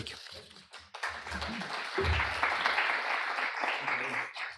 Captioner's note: applause